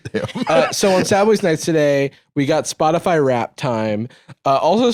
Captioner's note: normal voice